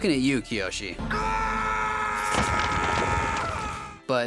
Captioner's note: screaming